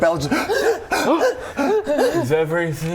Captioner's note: huh huh